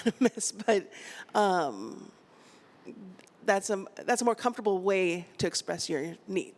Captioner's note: laughter